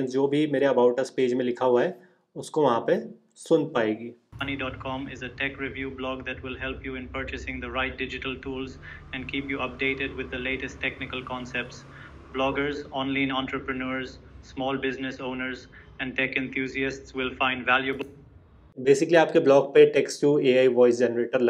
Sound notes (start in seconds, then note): 5.1 ai voice